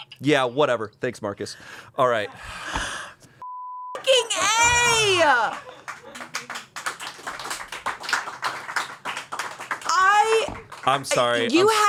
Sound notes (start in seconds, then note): 3.4 beep; 5.5 crew applauds